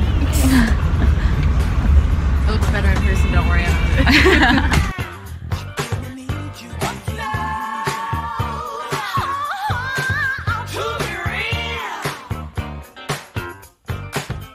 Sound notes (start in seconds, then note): 4.0 giggles